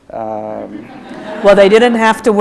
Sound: audience laughs

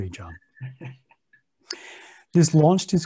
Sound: chuckles

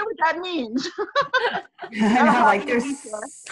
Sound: laughter

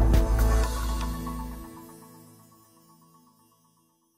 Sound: upbeat music; logo shimmers

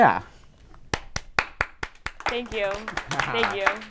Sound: enthusiastic applause

